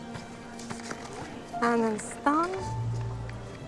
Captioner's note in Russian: Говорит по-французски